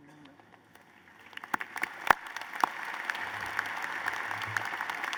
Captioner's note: applause